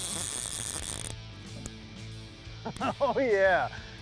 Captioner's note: fishing rod casting